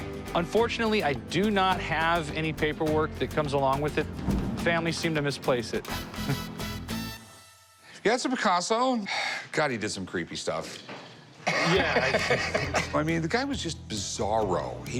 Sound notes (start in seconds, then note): 11.4 laughing